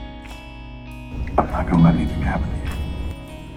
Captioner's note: voiceover